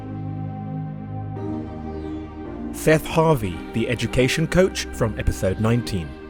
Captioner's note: voiceover